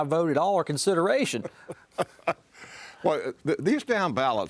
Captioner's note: laughing